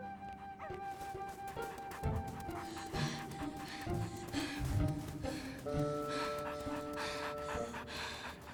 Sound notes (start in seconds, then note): 0.5 gasping; 5.5 panting